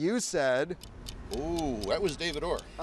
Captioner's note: timer ticking